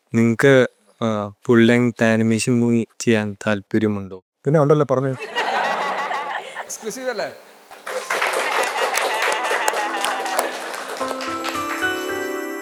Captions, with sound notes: Are you interested in making a full-length animated film? Yes, of course. Tell them. (applause)